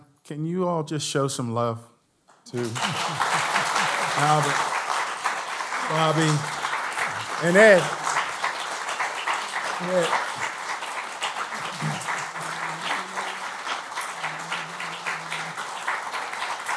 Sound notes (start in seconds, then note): 2.7 applause; 7.9 applause